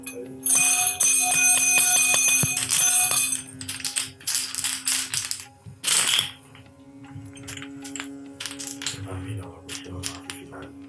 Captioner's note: incantation